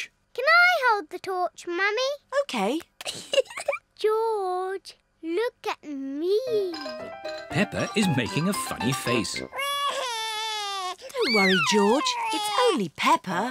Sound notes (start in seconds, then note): 3.0 giggles; 9.5 cries